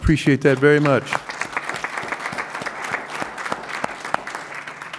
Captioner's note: applause